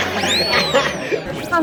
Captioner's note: such a juicy laugh!!